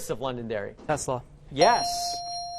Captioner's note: dinging